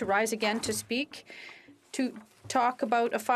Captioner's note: speaking French